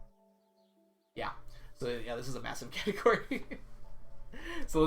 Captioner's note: laughs